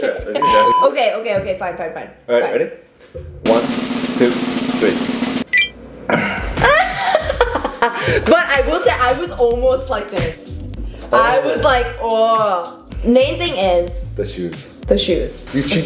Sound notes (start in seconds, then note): 6.2 laughing